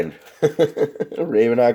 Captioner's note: laughs